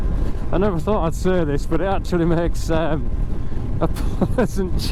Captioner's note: laughing